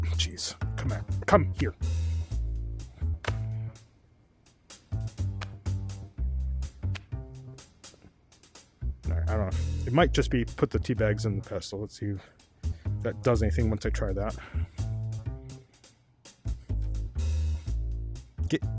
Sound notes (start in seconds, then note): none